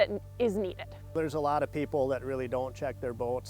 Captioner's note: voiceover